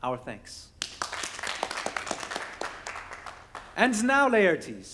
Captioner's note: people clap